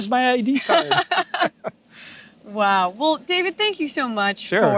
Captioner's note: laughs